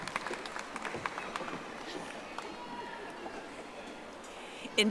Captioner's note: audience applauding